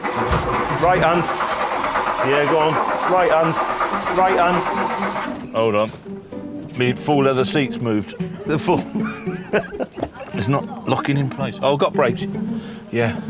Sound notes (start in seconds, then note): 0.0 engine turns over; 8.0 he laughs